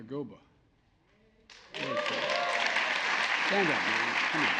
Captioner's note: applause